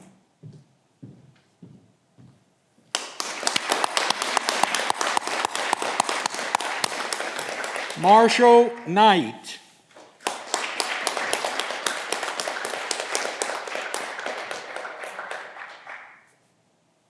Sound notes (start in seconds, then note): 10.0 audience clapping